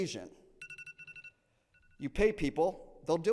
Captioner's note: alarm beeping